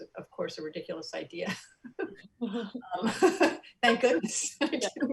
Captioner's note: soft laughs